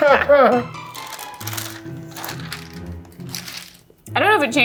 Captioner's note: laughs; paper crinkling